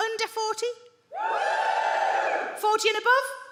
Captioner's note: audience woos